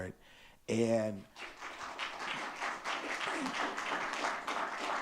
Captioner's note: audience clapping